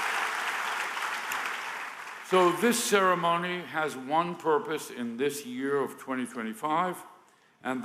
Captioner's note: applause